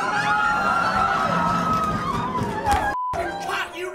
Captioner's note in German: Schreie